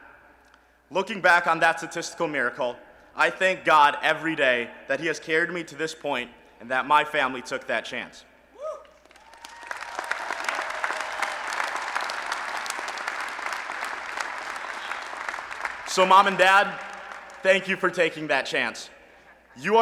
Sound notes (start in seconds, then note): 8.8 applause and Cheering